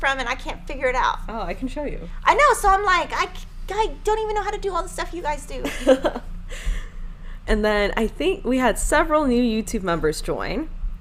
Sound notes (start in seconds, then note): 5.6 laughing